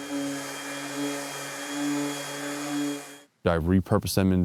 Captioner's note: sander noise